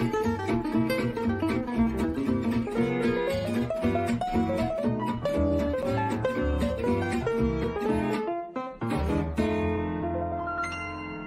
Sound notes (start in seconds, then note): none